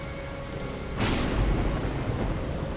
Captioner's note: thunder claps